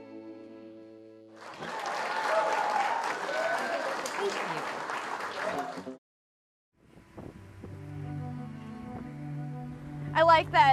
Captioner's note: cheering and applause